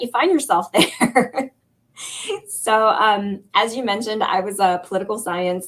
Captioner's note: laughter